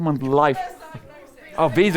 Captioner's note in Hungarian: közönség